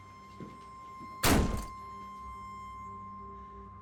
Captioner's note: door slams shut; piercing high-pitched tone over ominous electronic music